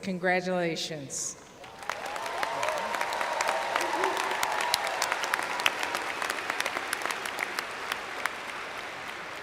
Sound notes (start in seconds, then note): 1.6 applause/cheers